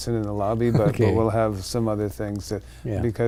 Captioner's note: laughing